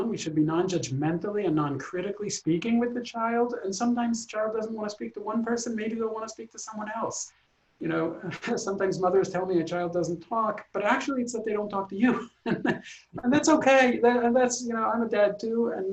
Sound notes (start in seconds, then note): 12.0 laughs